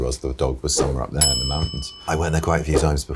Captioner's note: bell dings